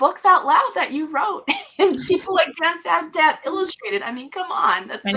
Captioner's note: laughs